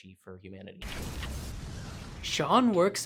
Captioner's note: explosion